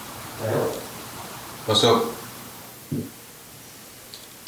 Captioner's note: none